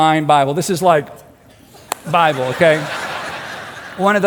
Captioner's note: crowd laughing